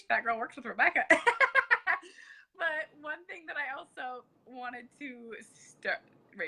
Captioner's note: laughs